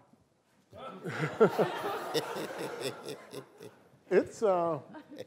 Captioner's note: laughter